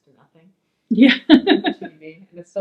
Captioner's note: laughs